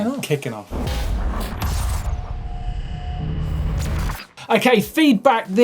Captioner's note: digital buzzing